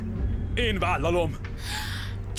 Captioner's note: gasps